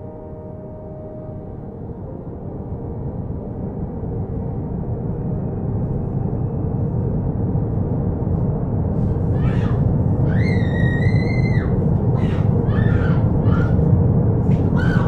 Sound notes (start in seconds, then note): 3.2 wind roaring; 9.7 Gabby screaming